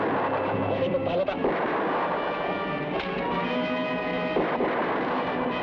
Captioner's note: man speaking in Tagalog; gunshots blast